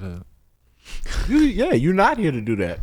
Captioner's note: snorts